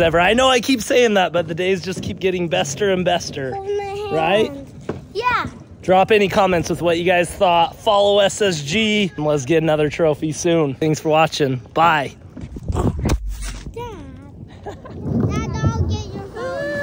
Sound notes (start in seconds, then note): 12.9 phone crunches; 14.4 mom laughs